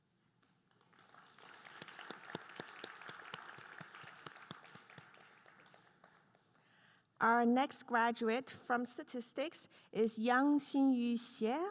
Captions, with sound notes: (audience applauding) Our next graduate from Statistics is Yangxinyu Xie.